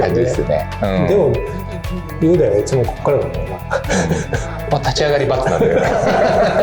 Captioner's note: laughs